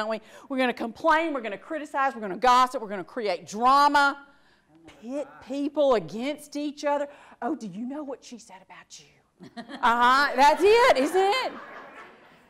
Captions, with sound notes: We're gonna complain, we're gonna criticize, we're gonna gossip, we're gonna create drama, pit people against each other. "Oh, do you know what she said about you?" (audience laughs) Uh huh, that's it isn't it?